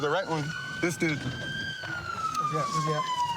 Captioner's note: siren wailing